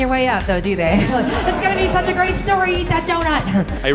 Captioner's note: laughter